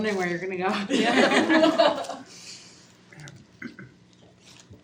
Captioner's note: students laugh